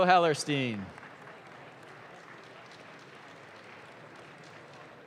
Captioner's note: audience claps